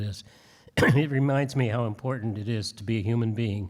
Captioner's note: clears throat